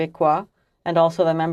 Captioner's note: speaking French